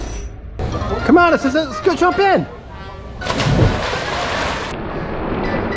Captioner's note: water splashing